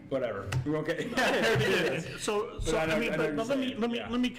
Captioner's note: group laughs